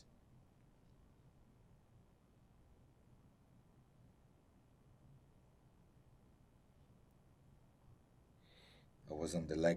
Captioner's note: pauses 8 seconds